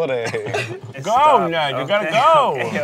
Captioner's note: laughing